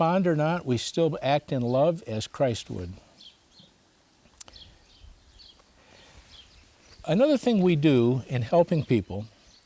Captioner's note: birds chirping